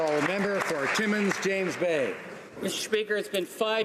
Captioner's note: applause